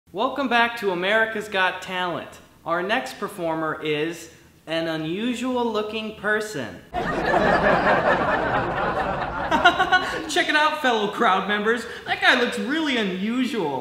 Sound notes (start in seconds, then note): 6.9 crowd laughing